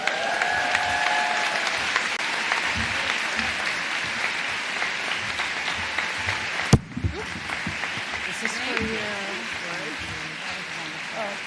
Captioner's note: cheers and applause